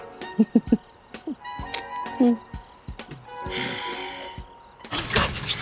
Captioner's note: chuckling in FBI